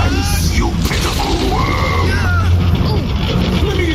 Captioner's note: shouting